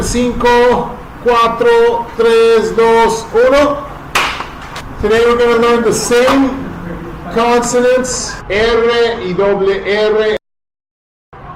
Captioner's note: clap